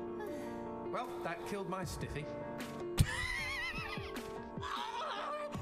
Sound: laughs

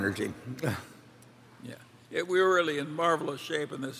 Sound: laughs

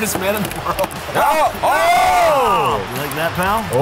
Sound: screams

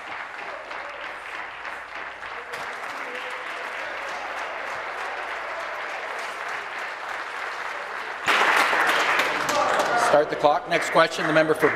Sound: applause

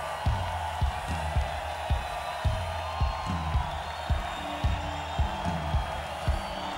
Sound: cheering and applause

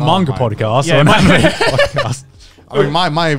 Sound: laughing

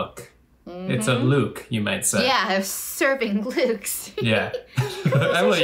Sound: laughs

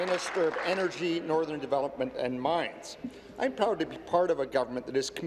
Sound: applause

